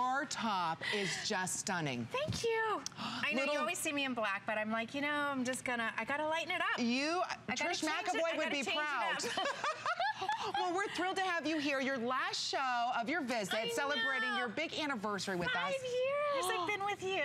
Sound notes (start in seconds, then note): 9.0 laughter